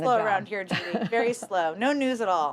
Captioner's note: laughter